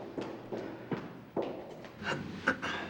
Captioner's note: clears throat